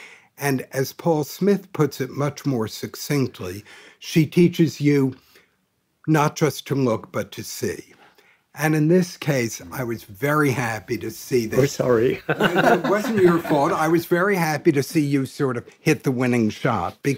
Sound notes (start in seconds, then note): 12.0 laughing